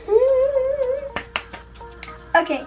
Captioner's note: claps